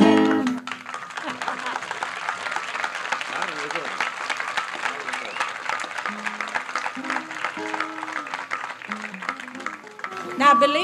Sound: audience applauds, chuckles

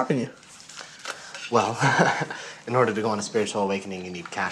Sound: laughs

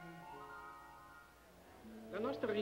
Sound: speaking in foreign language

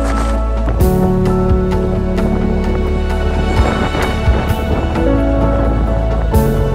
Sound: sound of wind

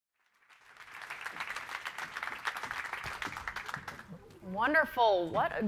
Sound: audience applauding

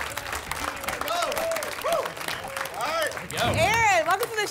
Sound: applause and cheering

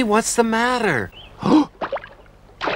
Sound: gasps

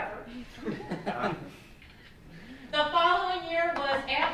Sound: laughs

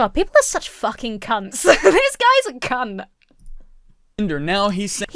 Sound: chuckles

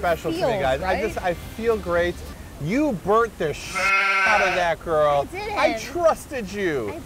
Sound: baah

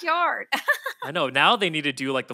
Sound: Felicia laughs

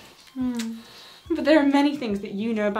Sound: kisses

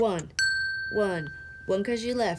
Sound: bell dinging

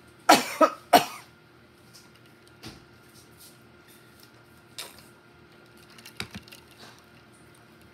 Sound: coughs

